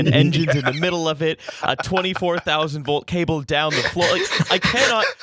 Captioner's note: laughter